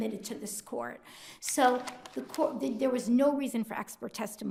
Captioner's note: paper crinkling